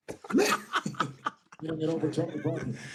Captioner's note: laughter